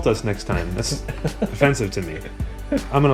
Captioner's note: laughs